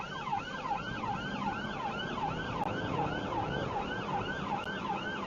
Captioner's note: car engine accelerating